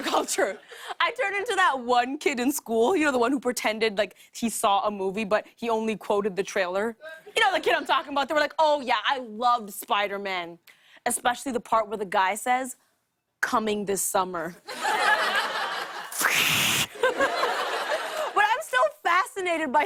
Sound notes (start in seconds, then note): 14.5 laughter